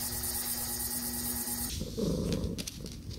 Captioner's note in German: Die katze schnurren